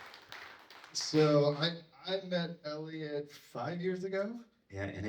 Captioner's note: applause